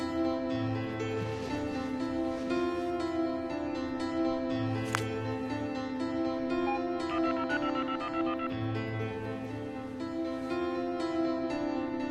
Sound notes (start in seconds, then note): 6.6 phone beeping; 8.9 tense keyboard music